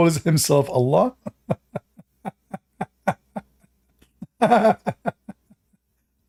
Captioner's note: Ketawa